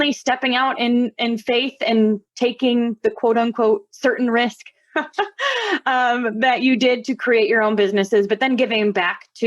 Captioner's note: chuckles